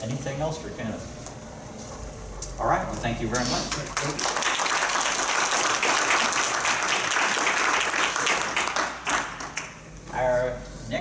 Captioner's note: clapping